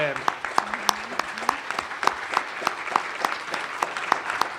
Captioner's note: applause continues